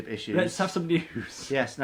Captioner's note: laughs